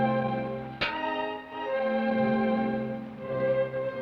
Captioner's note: pan clangs